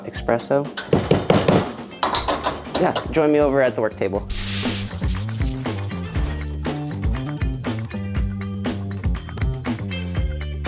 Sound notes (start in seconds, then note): 4.2 chalk scribbling; 7.4 upbeat funky music